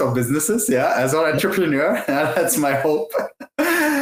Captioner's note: laughs